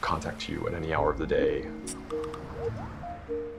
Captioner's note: cell phone notifications